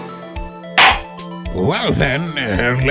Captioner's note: gavel slams!